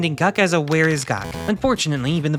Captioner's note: rolling dice, failure buzzer